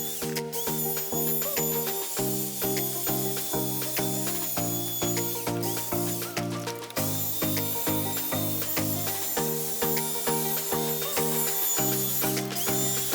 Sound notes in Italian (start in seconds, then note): 6.3 Applauso